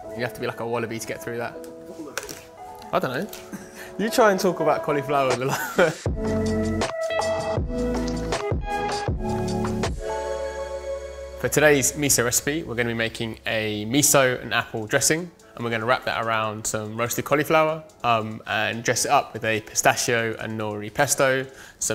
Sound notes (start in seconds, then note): 5.4 laughs; 6.6 relaxing music